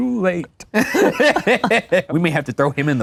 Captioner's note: all laugh